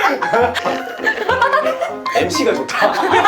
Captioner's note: slurp